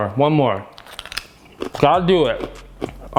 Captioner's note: crunching